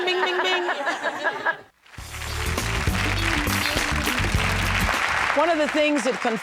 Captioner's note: applause